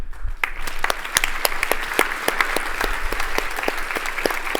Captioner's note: applause